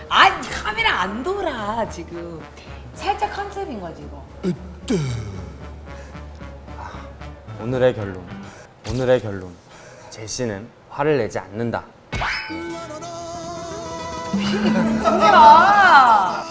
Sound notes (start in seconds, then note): 4.9 sigh